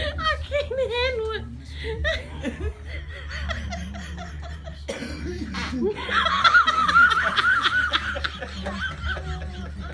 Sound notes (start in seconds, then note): 4.8 begins Coughing; 5.3 loud Fart From Granny; 5.8 uncontrollable laughter